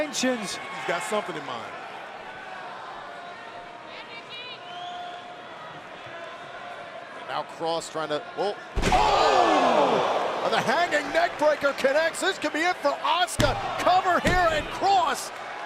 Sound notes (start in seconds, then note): 6.7 crowd chatter